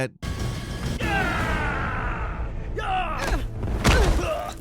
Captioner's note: Kano screaming; attacks slamming; fighters grunting